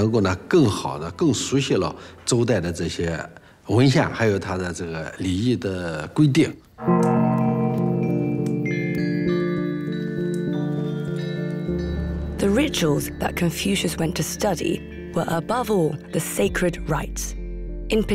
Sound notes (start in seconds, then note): 6.8 gong bellows; 6.9 gentle music